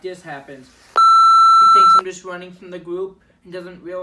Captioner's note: pitido